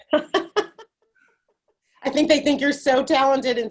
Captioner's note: laughing